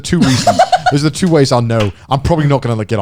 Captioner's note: chuckles